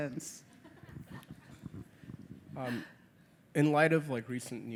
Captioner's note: audience laughing